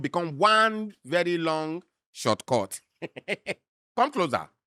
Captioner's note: chuckles